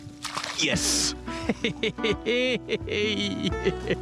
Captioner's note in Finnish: naurua